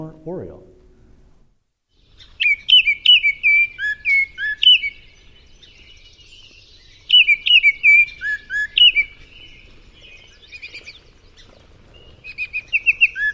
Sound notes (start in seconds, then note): 1.7 oriole singing